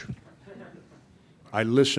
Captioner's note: reporters laughing